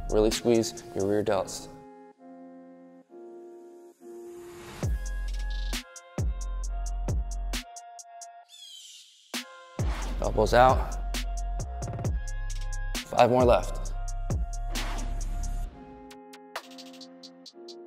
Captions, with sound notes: Really squeeze your rear delts. (upbeat music) (air whooshing) Elbows out. Five more left. (air whooshing)